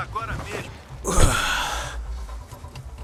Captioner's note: man sighs